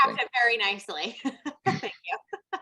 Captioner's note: laughs